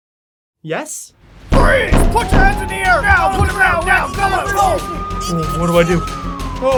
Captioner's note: door bangiing; sirens